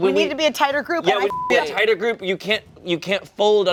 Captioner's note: beep